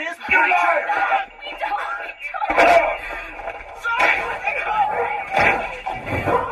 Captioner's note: sounds of someone being beaten